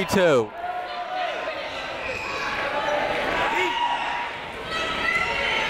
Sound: people shouting in the crowd

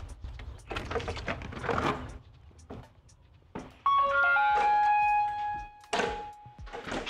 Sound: doorbell rings

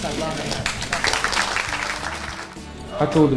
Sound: clapping

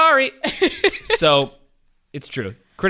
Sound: laughs

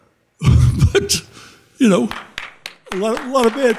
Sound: audience applauding

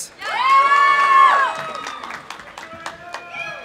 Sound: audience applauding; audience cheering

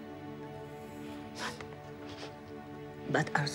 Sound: sobbing

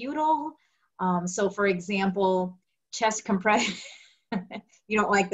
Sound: laughs

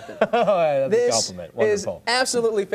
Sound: laughter

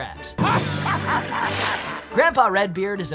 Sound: laughing

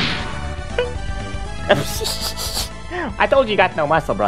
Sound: laughing

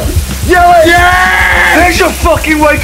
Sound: shouting

